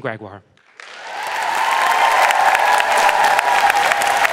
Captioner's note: audience applauds